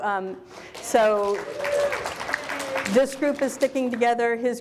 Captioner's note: audience applauds